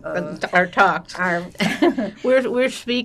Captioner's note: laughing